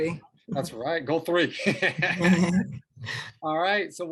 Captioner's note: laughs